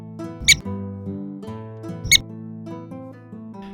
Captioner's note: prairie dog chirping